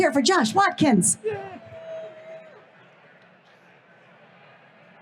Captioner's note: crowd cheers